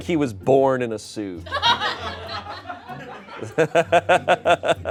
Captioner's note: everyone laughs